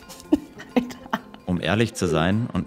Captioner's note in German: Lachen